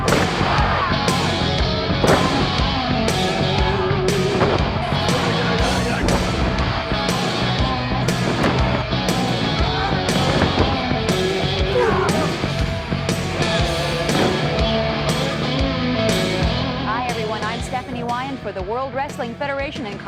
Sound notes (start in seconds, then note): 0.0 body thuds; 11.4 wrestler groans; 14.4 body thuds